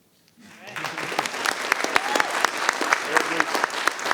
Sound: audience applauding

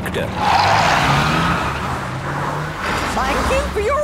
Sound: tires screeching

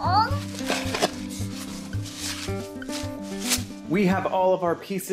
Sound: paper rustling

